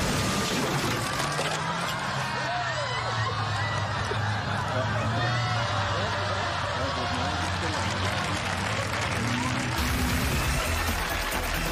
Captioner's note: laughing